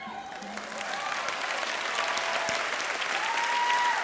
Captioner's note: cheering